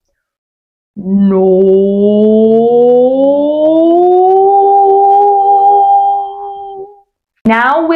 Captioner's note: pitch glide